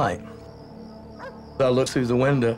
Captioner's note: barking